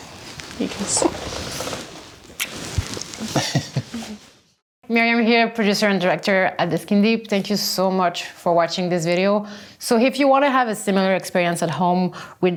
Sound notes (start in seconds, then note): 2.3 lips smacking; 3.2 laughs